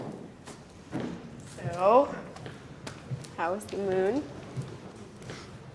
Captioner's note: boot cast thumping against floor